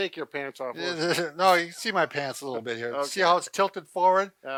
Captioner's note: laughs